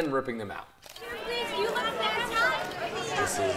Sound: audience chattering

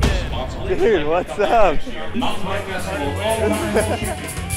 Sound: chuckling

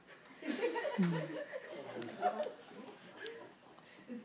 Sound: group laughs

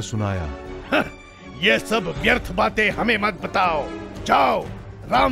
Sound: scoffs

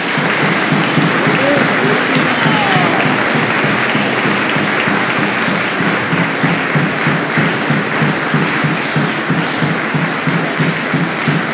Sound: applause

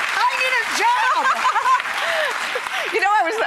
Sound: laughs

